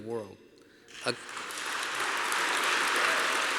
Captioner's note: applause